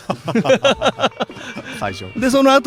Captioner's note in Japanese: 笑い